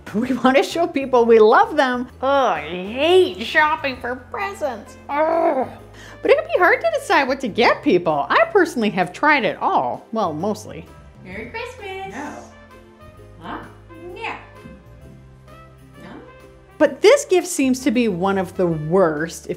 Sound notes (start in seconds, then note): 5.0 groaning; 13.0 playful music; 15.5 playful music